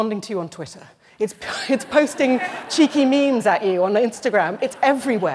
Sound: laughter

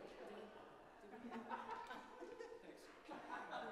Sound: laughing

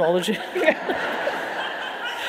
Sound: audience laughing

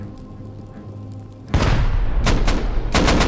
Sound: boom; gunfire

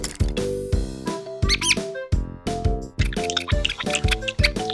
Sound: squeaking

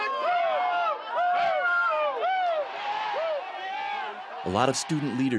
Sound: students chanting

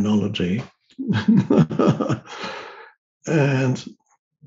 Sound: Eckhart laughing

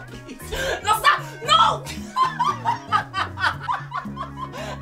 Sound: Efosa laughs hysterically

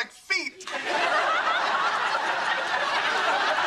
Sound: laughs

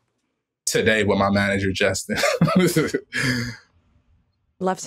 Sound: laughs

